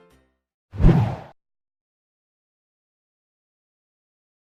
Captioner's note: low whooshing